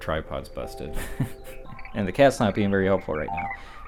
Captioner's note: laughs